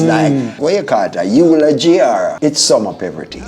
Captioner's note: speaking in foreign language